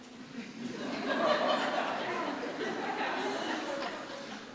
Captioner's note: audience laughing